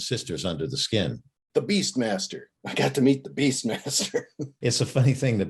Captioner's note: laughing